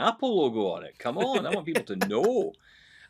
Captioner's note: laughing